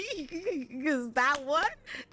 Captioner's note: laughs